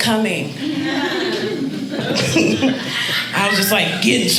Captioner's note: audience laughing